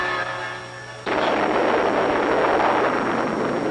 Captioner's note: huge explosion sound